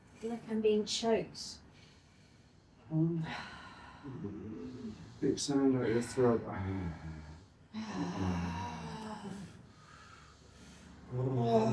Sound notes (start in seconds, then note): 7.7 sighing; 11.1 humming